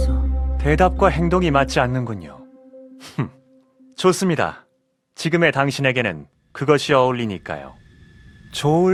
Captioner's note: ahhh